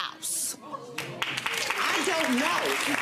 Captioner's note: audience applauding